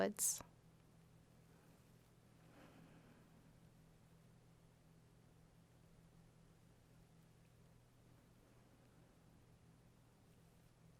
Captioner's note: silence